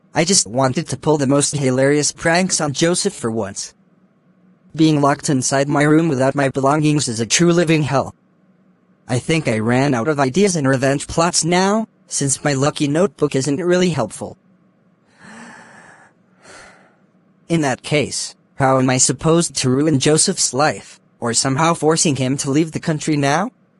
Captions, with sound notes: I only wanted to pull the most funnysome workgabs on Joseph for once! Being locked inside my room without my belongings is a true living hell! I think I ran out of mindseyes and wreak plots now, since my lucky logbook isn’t workly helpful! *deep breath* In that fall, how am I reckoned to wreck Joseph’s life, or somehow shoving him to leave the land now?